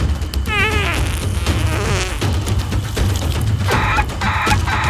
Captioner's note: dinosaur farting